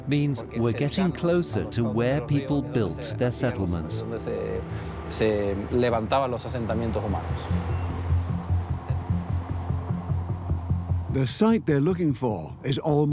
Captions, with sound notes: means we're getting closer to where people built their settlements. (speaks in Spanish) (device beeps) (rhythmic music) The site they're looking for